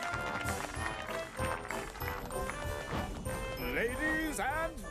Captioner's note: applause